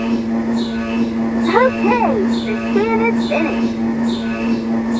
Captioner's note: MRI Intercom Calling